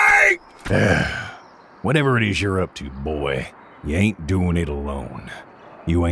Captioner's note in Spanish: suspiro